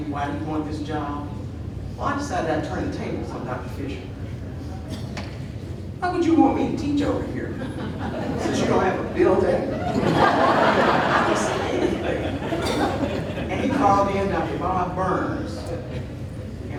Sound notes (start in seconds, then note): 7.8 audience laughing